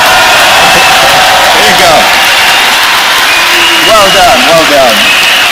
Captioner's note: cheers and applause